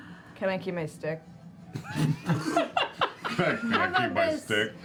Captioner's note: laughter